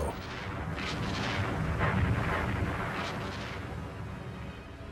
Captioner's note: explosion booming